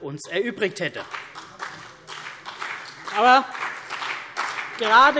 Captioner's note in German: Beifall CDU und BÜNDNIS 90/DIE GRÜNEN